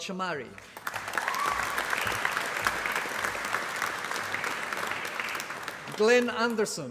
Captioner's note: applause